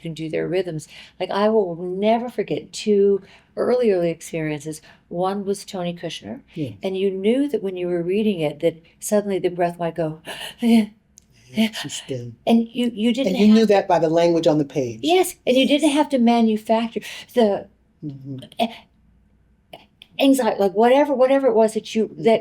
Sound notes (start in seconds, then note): 11.2 shuddered breathing; 17.2 sharp intake of breath